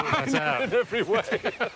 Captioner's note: Stephen laughs